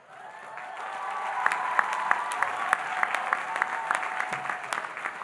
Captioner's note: audience cheering and applauding